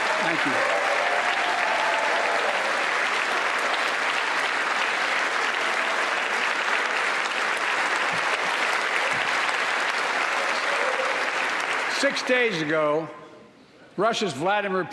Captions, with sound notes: WILL ALWAYS TRY YUMIUMPH OVER TYRANNY. [ APPLAUSE ] [ APPLAUSE ] THANK YOU.